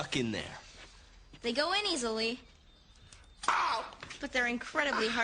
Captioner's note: yelps